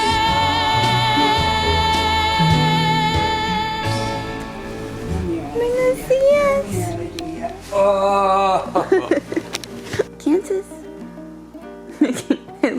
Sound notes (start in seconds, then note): 8.6 giggling